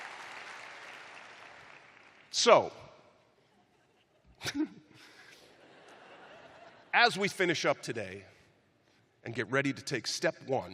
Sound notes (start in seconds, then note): 3.4 chuckling